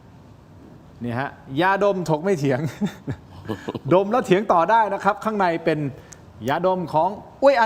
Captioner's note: laughter